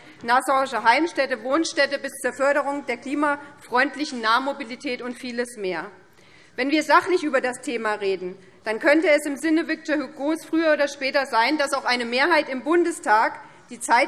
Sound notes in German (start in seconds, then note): none